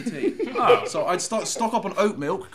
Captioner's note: laughing